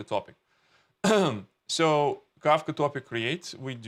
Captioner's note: clears throat